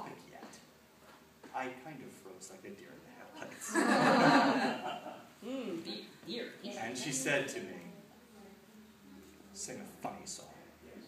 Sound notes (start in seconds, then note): 3.4 laughter